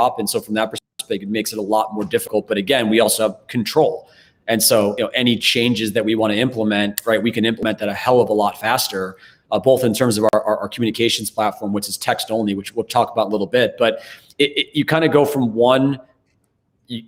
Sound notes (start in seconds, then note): 7.6 snaps fingers